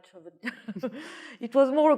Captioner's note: laughs